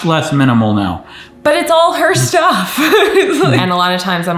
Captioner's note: laughs